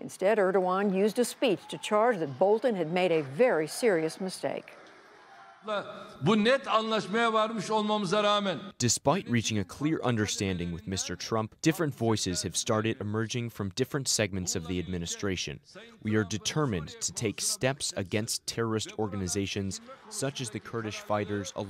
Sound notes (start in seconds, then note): 7.0 through translator